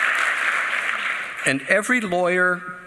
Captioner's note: applause